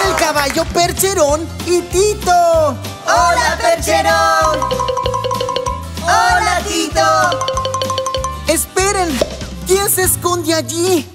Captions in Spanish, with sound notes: Son el caballo Percherón y Tito ¡Hola Percherón! (Sonido de campana) ¡Hola Tito! (Sonido de campana) ¡Esperen! ¿Quién se esconde allí?